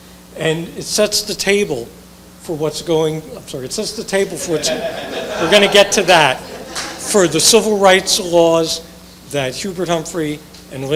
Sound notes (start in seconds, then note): 4.2 audience laughing